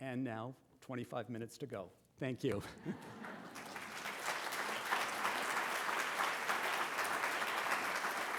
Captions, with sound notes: And now, 25 minutes to go. Thank you. [APPLAUSE]